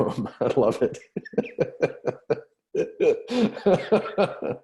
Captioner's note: laughter